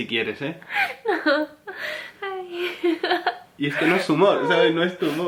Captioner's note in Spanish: llora de risa